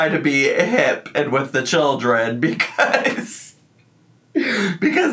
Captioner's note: laughs